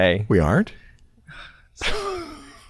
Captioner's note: chuckles